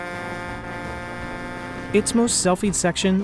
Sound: horn honking

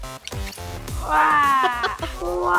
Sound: electronic music; groaning; laughing

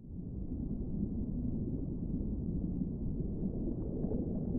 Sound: muffled water rushing

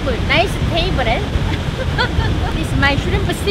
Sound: laughs

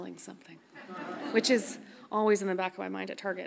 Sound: audience laughs softly

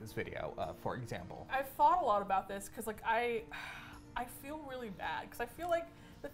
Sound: sighs

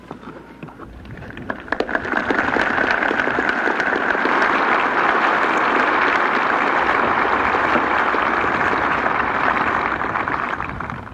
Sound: applause

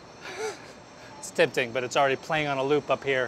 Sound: laughs

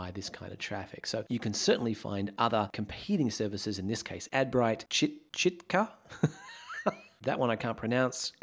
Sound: laughs

